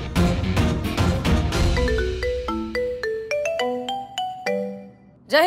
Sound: phone rings

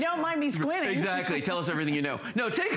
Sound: laughter

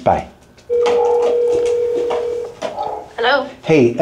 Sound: phone ringing

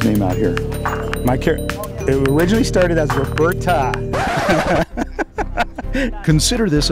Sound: screeching noise, laughing

